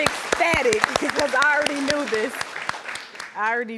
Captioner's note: audience applauding